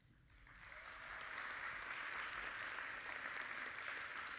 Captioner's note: audience applauding